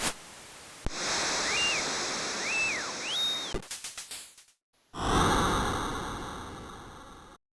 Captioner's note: 8-bit crowd cheering